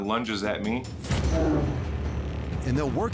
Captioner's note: growls